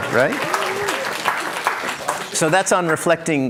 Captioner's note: cheers, applause